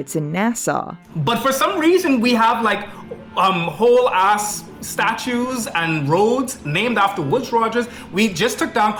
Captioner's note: foreign